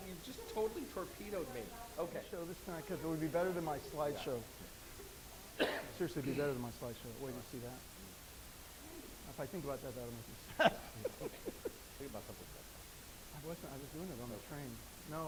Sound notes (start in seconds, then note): 10.4 laughing